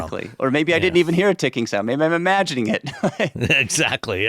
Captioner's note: chuckles